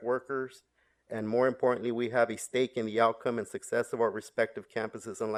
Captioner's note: audio cutting out